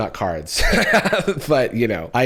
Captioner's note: laughs